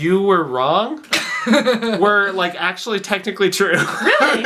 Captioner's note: laughs